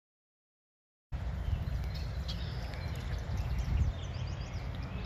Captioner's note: chimney swifts chirping